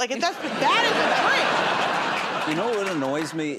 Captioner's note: laughter